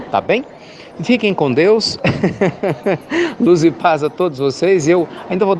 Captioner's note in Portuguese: Risos